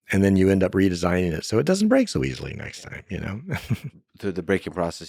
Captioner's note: laughs